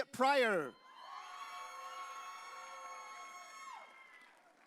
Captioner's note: audience cheering